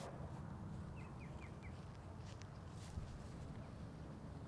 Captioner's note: bird song